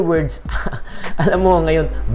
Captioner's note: laughs